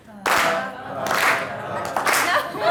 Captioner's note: voiceover; audience laughing